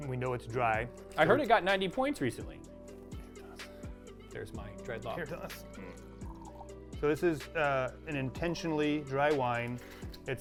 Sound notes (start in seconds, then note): 3.6 whispers